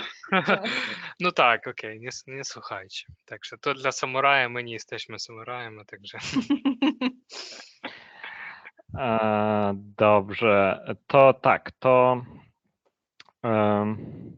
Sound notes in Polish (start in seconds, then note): 6.1 śmiech